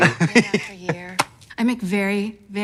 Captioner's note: Katya giggling; hand slaps